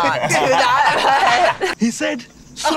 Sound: both laugh

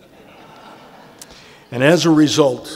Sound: laughter

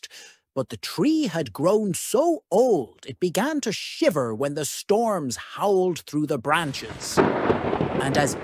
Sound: thunder cracks

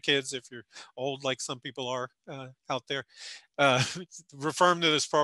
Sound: laughing

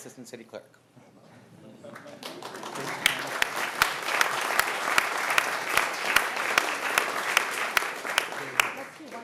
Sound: cheers and applause

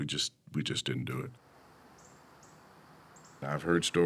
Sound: birds chirping, insects buzzing

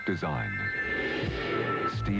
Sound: whoosh

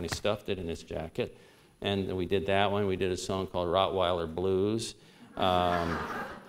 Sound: laughter

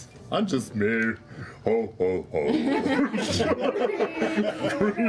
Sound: laughter

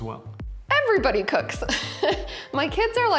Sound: laughing

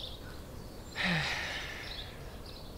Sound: happy sigh

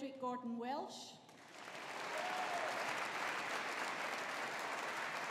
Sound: audience applauding

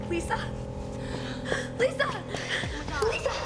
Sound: gasps

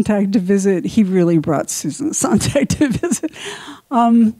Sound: laughs

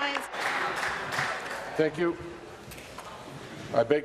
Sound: applause

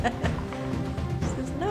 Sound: laughing

